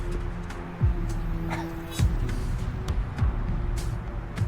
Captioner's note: Patrick coughs